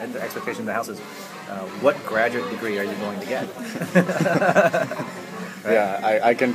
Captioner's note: laughs